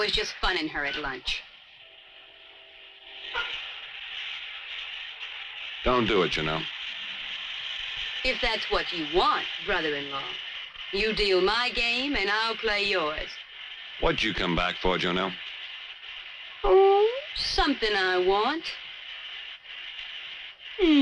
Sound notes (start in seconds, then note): 3.6 shower hissing